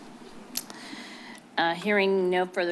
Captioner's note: clicks tongue